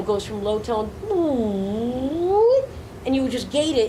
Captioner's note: imitates synth pitching up